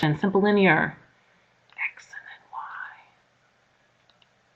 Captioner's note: whispering